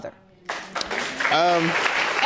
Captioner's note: audience applauding